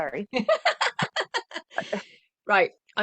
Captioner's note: laughter